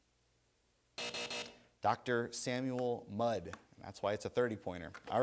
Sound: buzzer

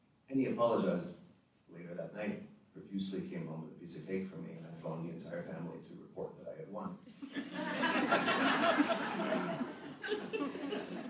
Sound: audience laughter

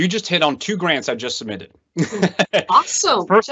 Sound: laughs

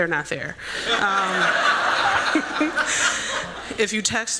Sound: laughter

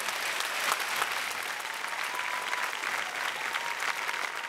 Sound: applause

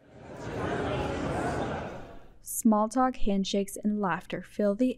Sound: collective chatter

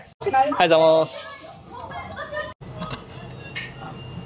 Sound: speaking in japanese

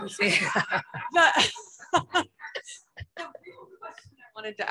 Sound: chuckles

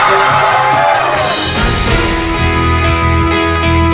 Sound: standing applause

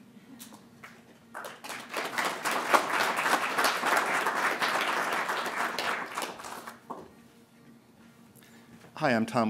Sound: applause

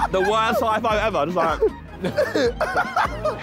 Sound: all laughing

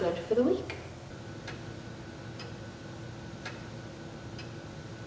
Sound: ticking sound of the clock

